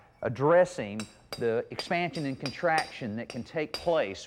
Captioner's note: mason hammering